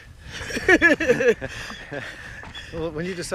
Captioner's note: laughter